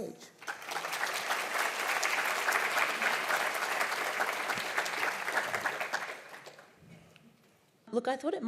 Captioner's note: applause